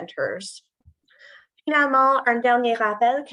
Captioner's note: non-english speech